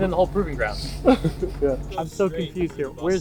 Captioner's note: chuckles